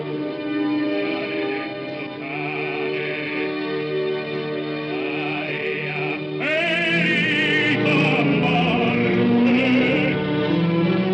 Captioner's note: angrily, grimly